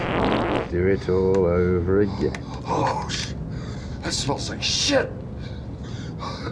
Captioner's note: farting continues; Gore gagging; Gore coughing